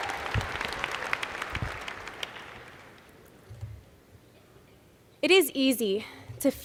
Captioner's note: applause